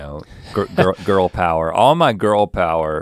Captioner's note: chuckles